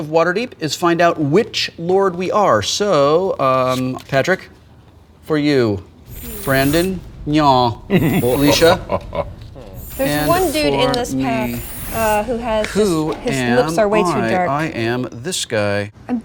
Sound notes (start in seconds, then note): 8.6 evil laugh